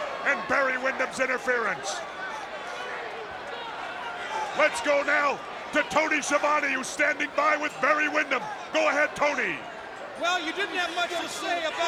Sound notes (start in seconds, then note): 2.5 crowd clamoring